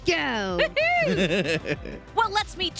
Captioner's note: laughs